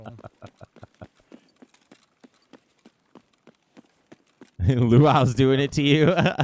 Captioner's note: laughing